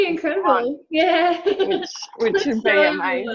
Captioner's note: laughing